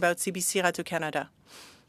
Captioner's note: speaking French